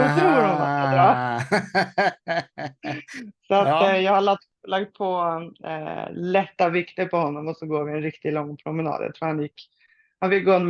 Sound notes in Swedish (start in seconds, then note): 0.0 Skratt